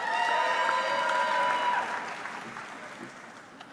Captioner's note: audience clapping